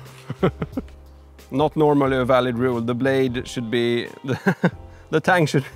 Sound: laughing

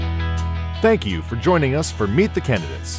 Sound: voiceover

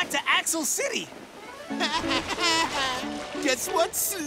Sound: laughing mockingly

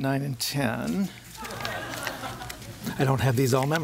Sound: laughter

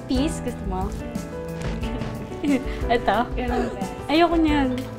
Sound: both giggling

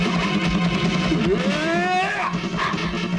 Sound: grunts

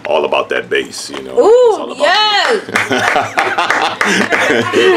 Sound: clapping

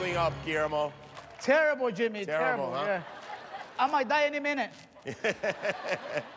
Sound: cheers and applause

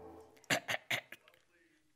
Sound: clears throat

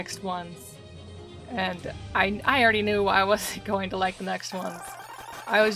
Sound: laughing

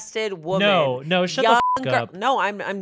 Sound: beep

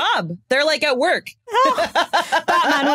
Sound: laughs

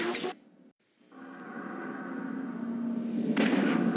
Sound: mechanical sounds; dramatic sounds; digitized landslide sounds

